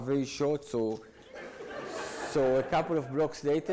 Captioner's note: audience laughs